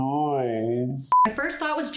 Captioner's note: beeping